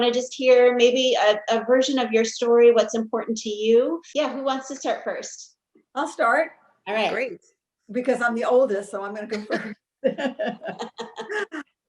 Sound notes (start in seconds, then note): 7.6 all laughing